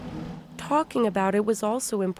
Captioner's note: voice-over